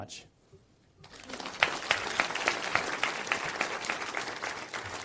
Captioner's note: audience applauds